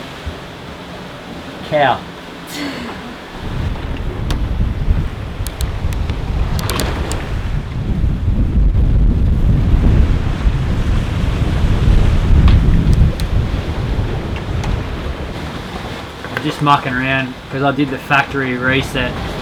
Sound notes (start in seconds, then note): 5.2 waves crashing